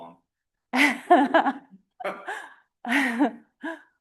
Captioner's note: laughter